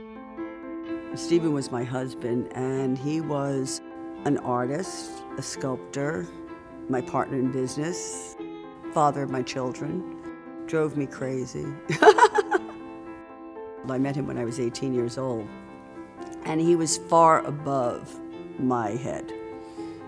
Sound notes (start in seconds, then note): 11.9 laughs